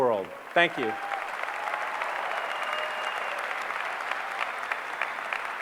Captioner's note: applause